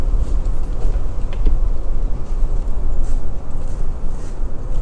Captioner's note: wind